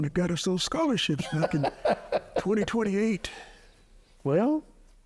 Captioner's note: laughing